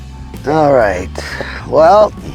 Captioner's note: sighing